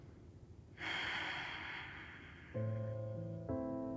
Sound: inhales; exhales; serene music

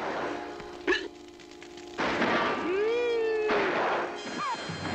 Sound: hiccups; shots firing

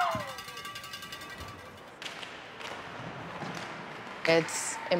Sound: cheering

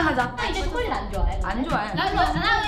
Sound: speaks in Korean

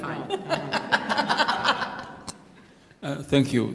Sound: laughter

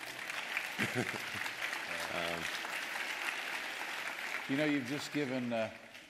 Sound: laughter; applause

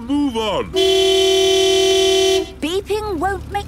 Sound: honking

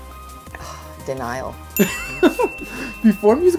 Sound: giggles

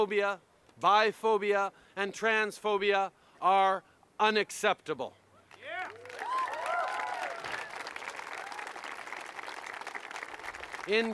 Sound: cheers & applause

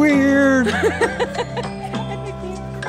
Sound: laughter

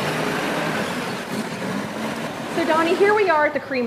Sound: engine revving

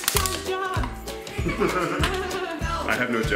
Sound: laughing

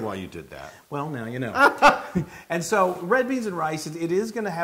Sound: laugh

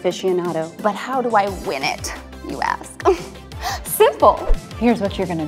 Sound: laughs

